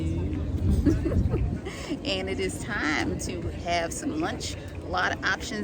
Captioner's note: laughing